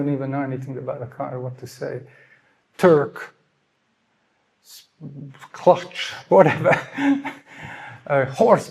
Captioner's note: nevetés és zihálás